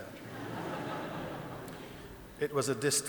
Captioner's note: audience laughing